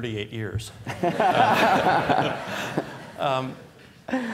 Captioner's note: laughter